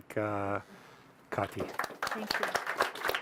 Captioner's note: audience applauding